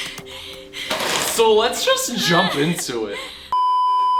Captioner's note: crying; crying; beeeeeeeeeeeep